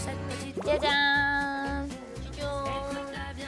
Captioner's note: ta-da